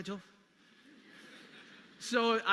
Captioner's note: audience laughing